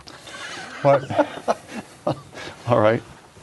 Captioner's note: laughter